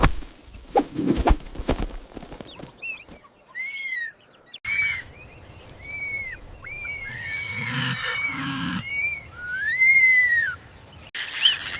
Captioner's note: screaming